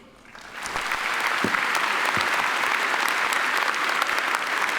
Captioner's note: attendees applaud